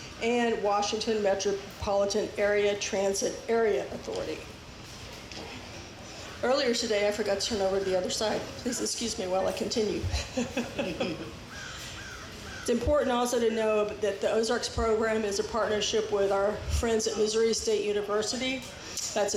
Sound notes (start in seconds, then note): 10.1 laughs